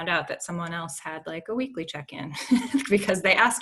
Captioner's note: chuckles